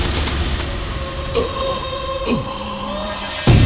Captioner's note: groans